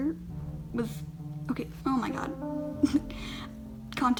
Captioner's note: laughing